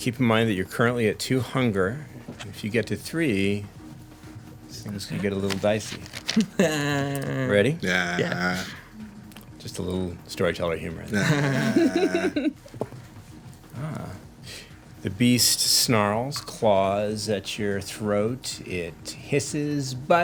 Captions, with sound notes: Keep in mind that you're currently at two hunger. If you get to three, things could get a little dicey. (laughs) Ready? Just a little Storyteller humor there. (laughter) (dice rolling) The beast snarls, claws at your throat, it hisses,